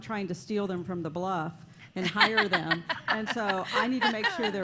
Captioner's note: laughter